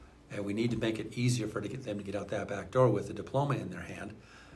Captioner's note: none